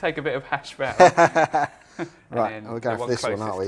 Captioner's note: laughing